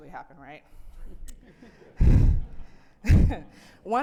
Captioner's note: audience chuckling